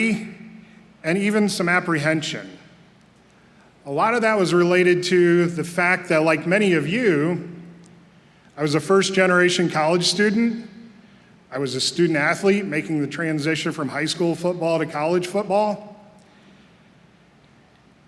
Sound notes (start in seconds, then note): none